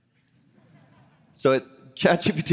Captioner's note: laughter